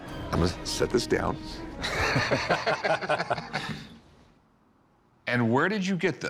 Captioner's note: laughter